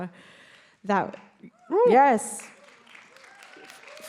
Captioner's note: crowd cheers